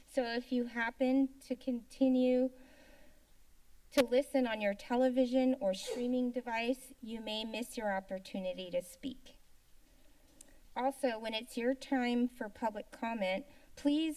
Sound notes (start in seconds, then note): 2.8 silence; 5.8 sneeze; 9.4 silence